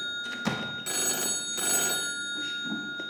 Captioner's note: phone continues ringing